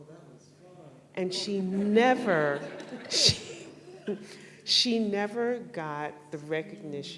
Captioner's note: laughter